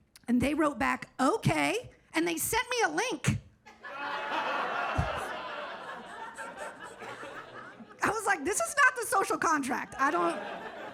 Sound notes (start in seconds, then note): 3.7 audience laughs